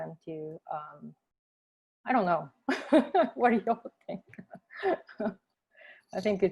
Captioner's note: laughter